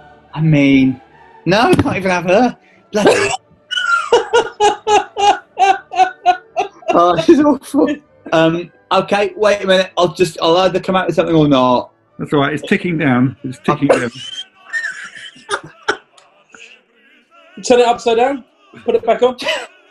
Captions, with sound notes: I mean... no, I can't even have her! Bloody hell. [LAUGHTER] Ah, this is awful! Um, okay, wait a minute – I'll either come out with something or not. It's alright, it's ticking down. Turn it upside down?